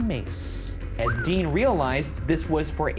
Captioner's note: whistles